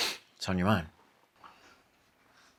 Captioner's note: sniffs